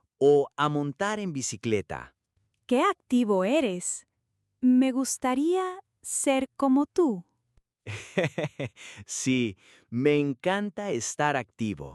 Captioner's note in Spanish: risas